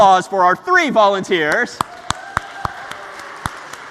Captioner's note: applause